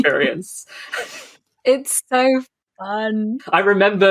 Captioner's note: laughs